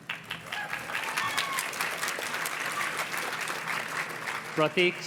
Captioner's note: audience cheers and claps